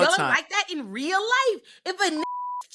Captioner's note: beep